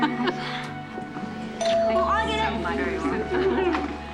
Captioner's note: laughs; doorbell rings